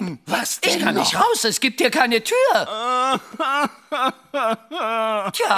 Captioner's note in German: jammert